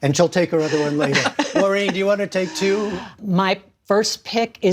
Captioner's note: laughter